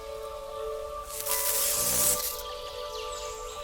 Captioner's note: electricity buzzing